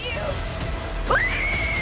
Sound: screams

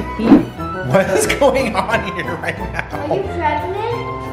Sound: laughing

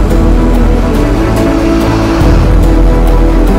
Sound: raining

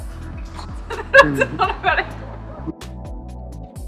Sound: laughing; mellow music

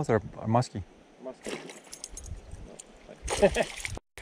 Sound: laughs

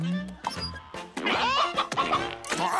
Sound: clucking

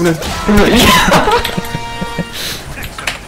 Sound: laughing

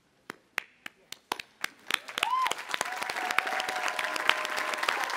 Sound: audience applauding

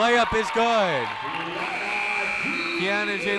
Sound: buzzer ringing

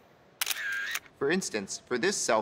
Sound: camera shutter clicks

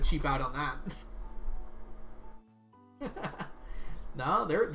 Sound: laughs

